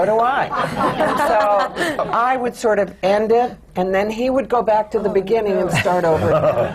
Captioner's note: laughter; laughter